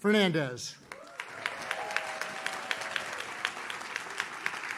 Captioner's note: audience cheers